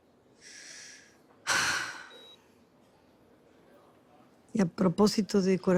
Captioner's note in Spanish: Suspiro